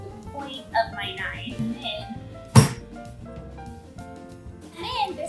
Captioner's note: knife slams into cutting board